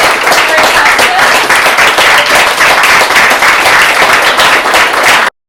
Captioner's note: applause